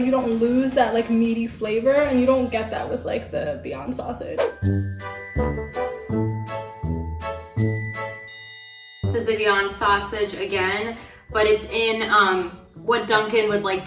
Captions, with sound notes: you don't lose that like meaty flavor and you don't get that with like the Beyond sausage. (upbeat music) (beep) - This is the Beyond sausage again but it's in what Dunkin would like